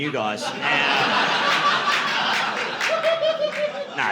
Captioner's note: audience laughing